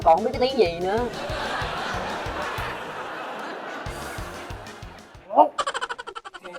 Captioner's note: laughing